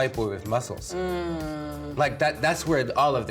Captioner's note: groans